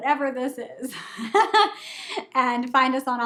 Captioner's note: laughing